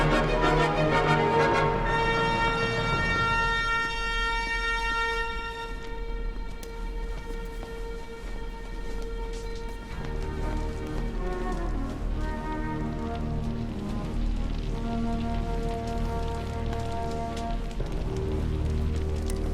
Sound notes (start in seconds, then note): 4.8 footsteps; 8.7 somber orchestral music; 12.3 fire crackling